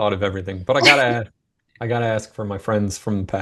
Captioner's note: laughs